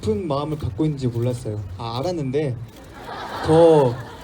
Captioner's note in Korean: 웃음